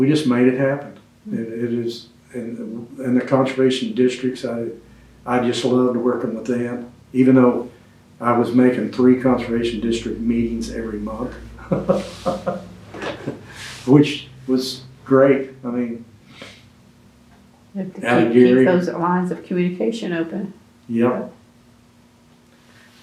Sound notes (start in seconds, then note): 11.5 laughs